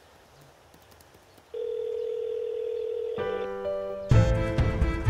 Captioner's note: Phone ringing